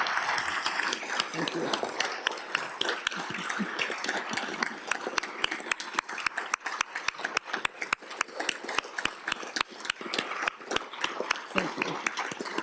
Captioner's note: applause